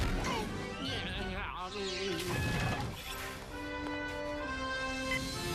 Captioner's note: babbling